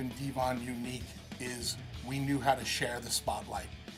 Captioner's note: none